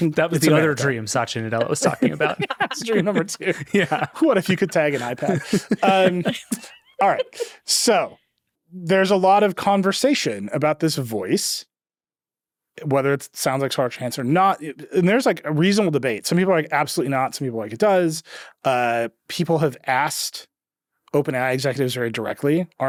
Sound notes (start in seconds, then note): 0.2 laughing; 3.9 chuckles; 5.6 chuckling